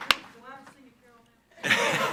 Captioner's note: speaks off microphone; participants laughing